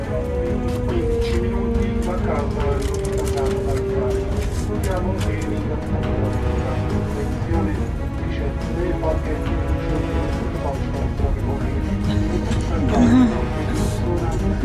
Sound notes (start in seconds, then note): 1.8 announcement in Italian; 8.5 announcement in German